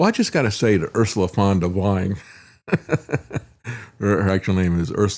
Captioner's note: laughs